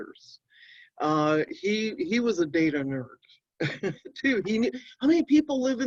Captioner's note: chuckling